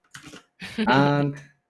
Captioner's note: chuckles